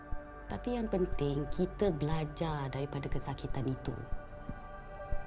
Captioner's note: in Bahasa Melayu